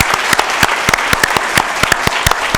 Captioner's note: applause